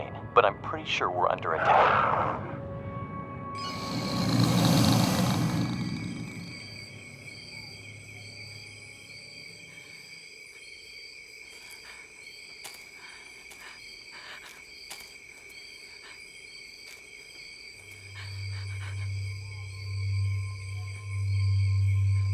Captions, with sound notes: [ CREATURE GROWLS ] BUT I'M PRETTY SURE WE'RE UNDER ATTACK. [ NANCY BREATHING SHAKILY ]